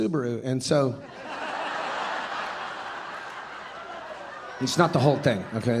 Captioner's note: audience laughing